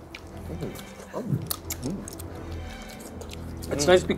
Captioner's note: lip smacking